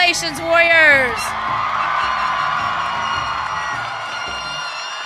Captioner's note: audience cheering